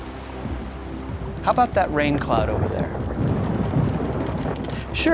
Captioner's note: thunder rumbles